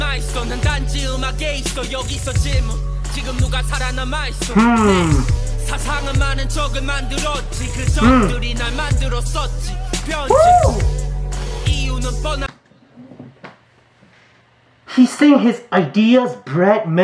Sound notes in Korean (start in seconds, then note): 4.4 흐음!